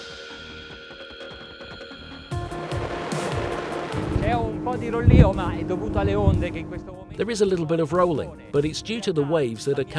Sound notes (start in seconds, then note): 2.3 boat engine roaring; 4.4 speaking foreign language